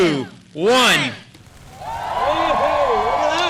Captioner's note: cheers